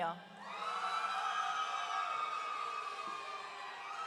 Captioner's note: audience cheering